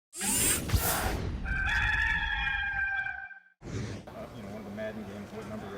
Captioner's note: mechanical whirring; rooster crowing